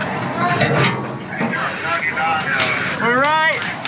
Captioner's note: door clanging